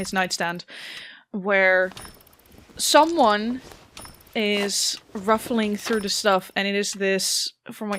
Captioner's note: cloth rustling, faint thumps